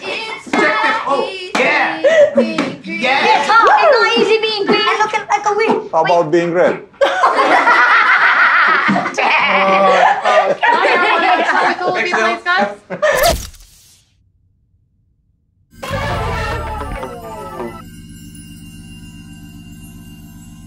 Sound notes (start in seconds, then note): 6.6 everyone laughs; 17.3 upbeat music